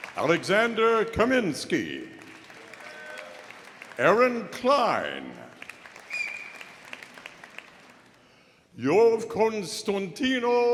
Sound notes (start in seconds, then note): 0.0 audience applauding